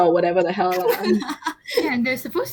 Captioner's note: laughs